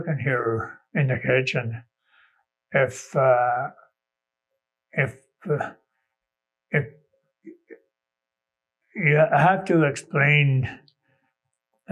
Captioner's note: pause